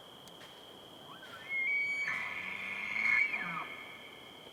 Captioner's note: elk bugles